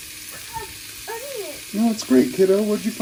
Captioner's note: sizzling